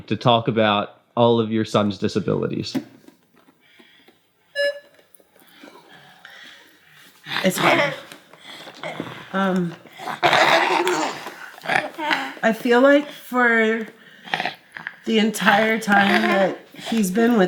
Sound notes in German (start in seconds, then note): 9.1 lacht